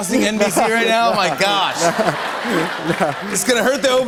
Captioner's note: laughter and applause